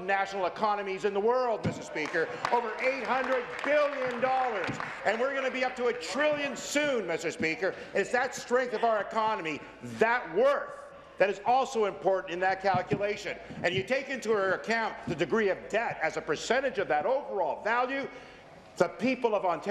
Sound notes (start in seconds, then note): 6.2 applause